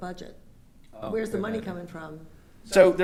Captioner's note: speaking quietly